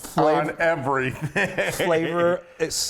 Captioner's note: laugh